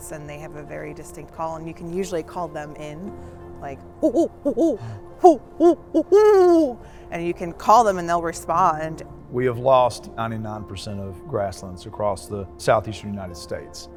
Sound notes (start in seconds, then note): 4.0 bird call sound